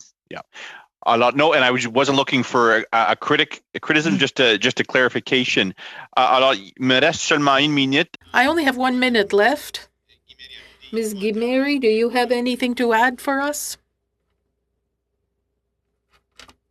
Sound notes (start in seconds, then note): 12.9 speaking French